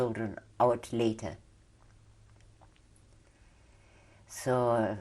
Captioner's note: pauses for 3 seconds